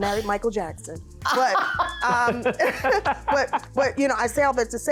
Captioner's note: laughing